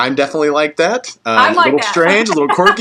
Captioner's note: laugh